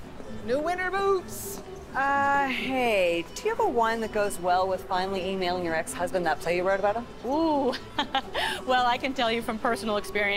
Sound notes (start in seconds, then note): 7.7 chuckles